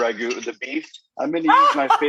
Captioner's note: laughs